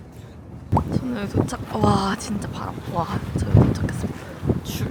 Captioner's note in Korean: 바람소리